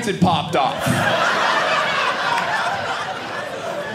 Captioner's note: audience laughing